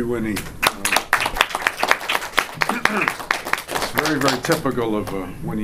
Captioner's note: audience applauding